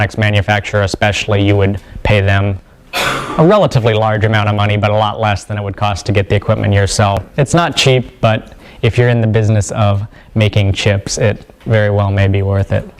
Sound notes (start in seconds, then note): 2.9 cough